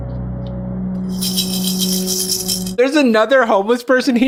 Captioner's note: coin jingling